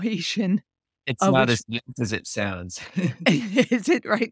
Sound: laughs

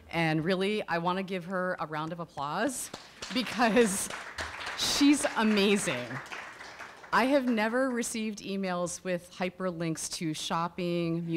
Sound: audience applause

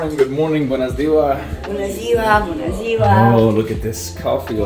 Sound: speaking Romanian

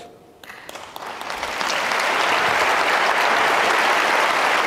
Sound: audience clapping

